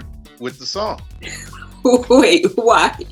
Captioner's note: laughing